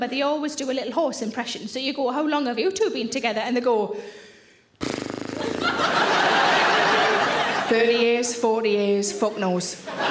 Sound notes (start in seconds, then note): 4.8 exhaling and sputtering; 5.3 audience laughing